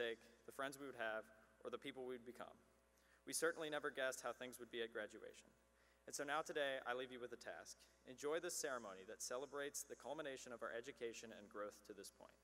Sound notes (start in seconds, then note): none